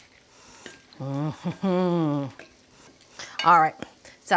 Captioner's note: laughing